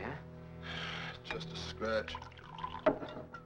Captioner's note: sighs